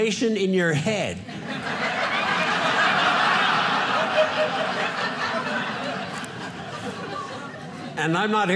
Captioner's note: audience laughing